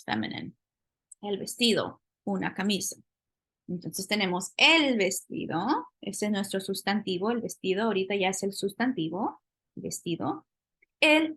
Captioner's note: speaking spanish